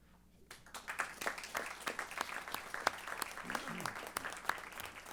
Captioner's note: applause